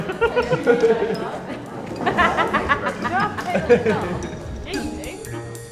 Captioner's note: laughing